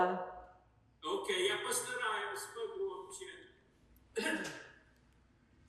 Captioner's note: coughing